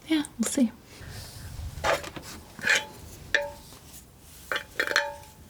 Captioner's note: scratching